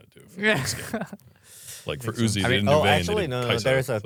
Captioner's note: laughs